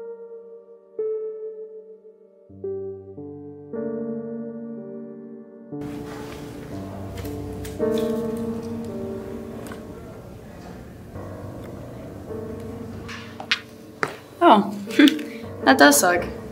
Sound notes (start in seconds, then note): 13.0 sneakers squeak